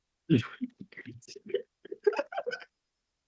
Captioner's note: laughing